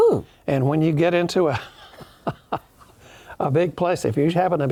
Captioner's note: laughs